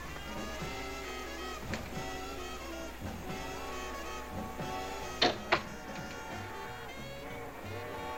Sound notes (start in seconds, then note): 4.6 door closing